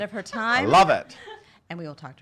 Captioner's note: laughs